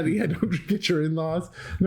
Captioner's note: laughter